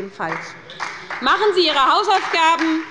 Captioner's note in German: Beifall bei der SPD und der LINKEN